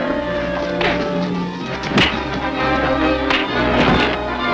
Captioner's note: devil growls; fists thud; body slams